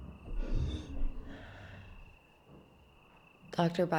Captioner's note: object creaking